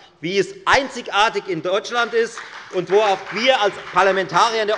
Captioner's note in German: Beifall bei der FDP und der SPD